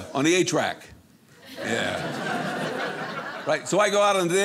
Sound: audience laughing

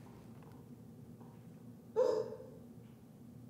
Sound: muffled cry

